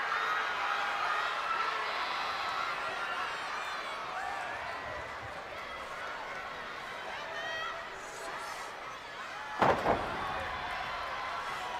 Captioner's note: crowd chatter